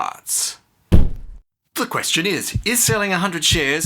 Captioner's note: thump